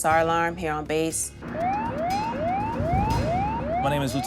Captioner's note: alarm blaring